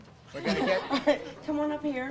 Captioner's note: audience laughs